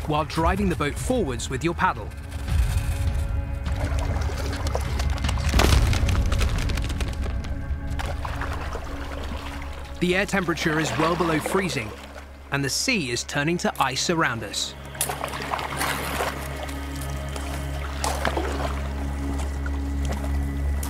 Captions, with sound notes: while driving the boat forwards with your paddle. (paddling through water) The air temperature is well below freezing and the sea is turning to ice around us. (cracking ice) (ominous music)